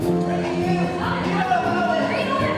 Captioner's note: overlapping shouting